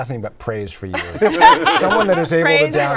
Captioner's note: laughter